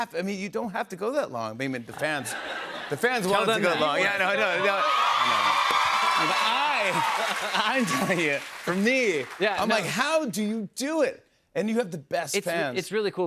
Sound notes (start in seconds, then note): 4.4 cheers and applause